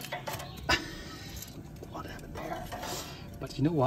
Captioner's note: laughs